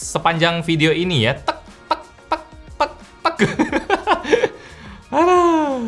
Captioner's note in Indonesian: ketawa